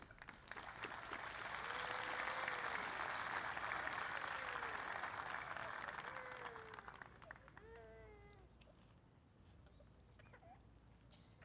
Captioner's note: applause